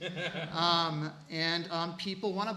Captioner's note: laughing